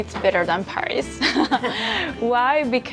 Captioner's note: chuckling